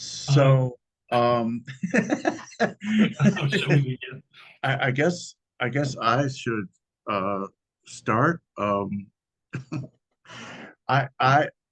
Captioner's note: laughter